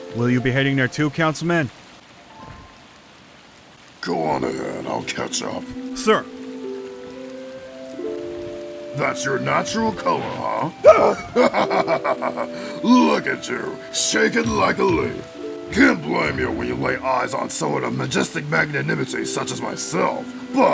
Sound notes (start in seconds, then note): 10.2 laughs